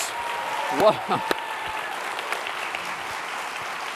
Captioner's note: applause